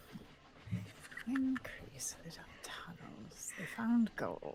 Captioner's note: mumbling